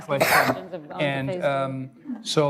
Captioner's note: coughing